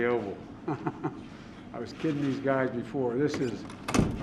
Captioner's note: laughs